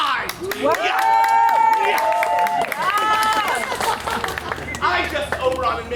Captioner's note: audience applauds; audience cheers